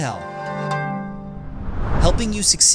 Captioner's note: logo whooshing